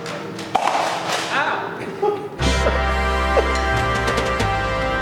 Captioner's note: laughing